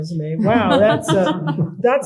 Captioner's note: laughter